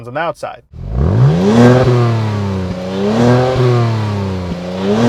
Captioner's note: car engine roaring